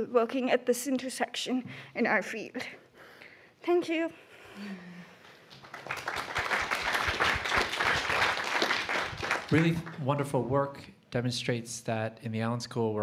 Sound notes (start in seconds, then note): 5.2 applause